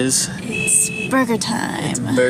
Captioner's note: car honks